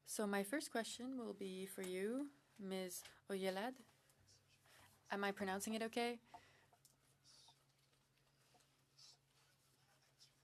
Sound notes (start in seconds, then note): 6.8 speaking French